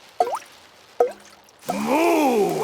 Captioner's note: water dripping